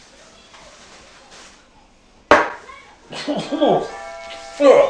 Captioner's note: door bell rings